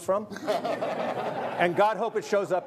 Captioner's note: audience laughing